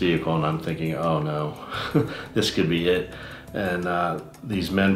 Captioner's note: laughs